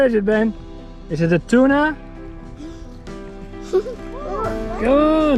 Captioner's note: laughs